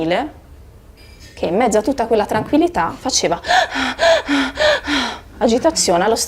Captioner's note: gasping